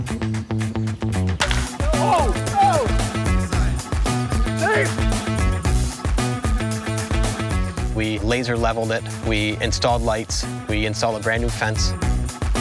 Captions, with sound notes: (baseball hitting a bat) - [Person shouting] Oh! Oh! We laser leveled it, we installed lights, we installed a brand new fence.